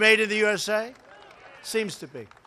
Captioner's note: applause